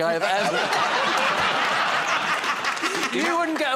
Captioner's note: laughter